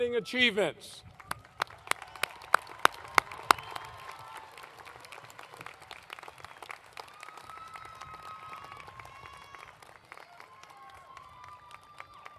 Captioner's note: applause